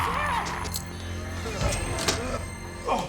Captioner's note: shrieking; groans